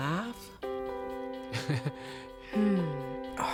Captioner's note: laughs